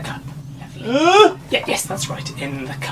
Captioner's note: monster grunting